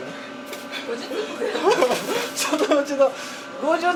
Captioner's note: laughs